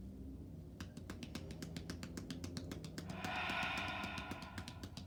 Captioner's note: hands tapping